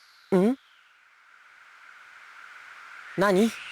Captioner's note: silence